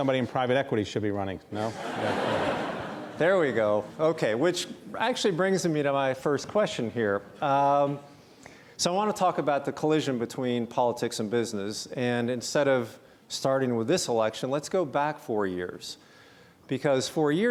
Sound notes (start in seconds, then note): 1.6 audience laugh